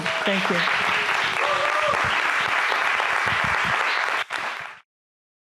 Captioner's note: audience applauds and cheers